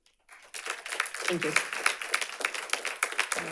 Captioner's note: audience applauding